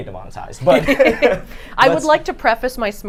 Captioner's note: all laugh